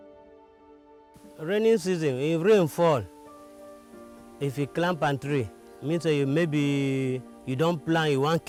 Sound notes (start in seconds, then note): 1.5 speaking in foreign language